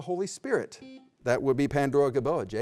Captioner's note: beep